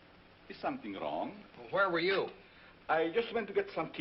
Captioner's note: none